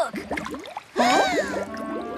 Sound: bubbling & Gurgling; gasps

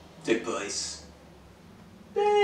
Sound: loud car goes

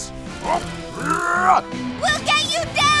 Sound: grunting

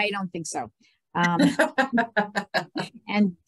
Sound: laughs

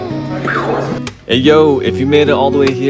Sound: mimics explosion

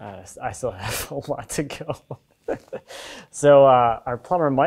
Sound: laughing

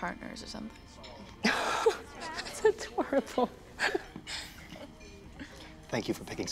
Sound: laughs

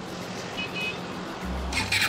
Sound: beep beep

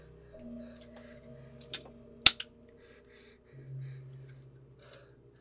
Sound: gun's cylinder pops in

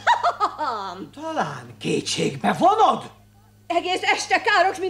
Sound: laughs mockingly

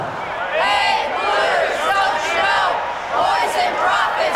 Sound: crowd

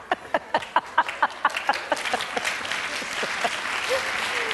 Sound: Kamala laughs; audience claps

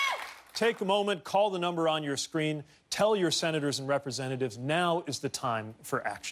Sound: cheers and applause

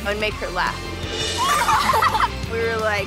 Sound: laughing

